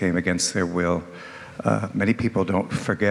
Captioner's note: none